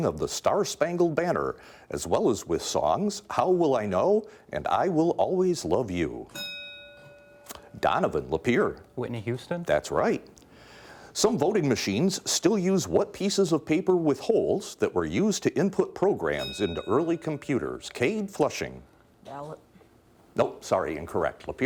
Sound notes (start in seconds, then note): 6.3 bell dinging; 16.4 bell dinging